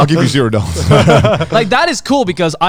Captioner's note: group laughs